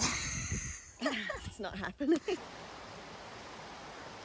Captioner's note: giggles